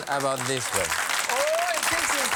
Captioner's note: applause